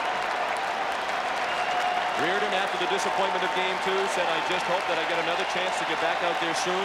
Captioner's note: applause; cheering and Applause; applause